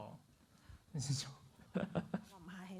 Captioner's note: laughs